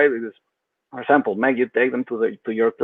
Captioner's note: speaks faintly